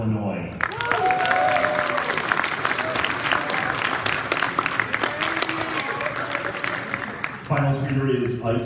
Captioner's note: applause